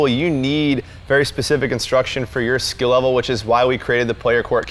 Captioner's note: none